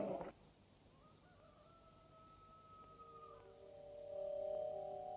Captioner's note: rooster crowing; light music